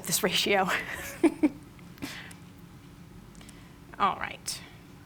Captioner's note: laughs